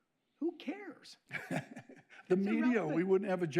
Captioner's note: laughs